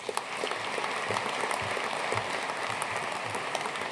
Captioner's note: audience applauding